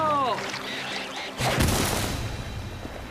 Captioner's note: loud Thudding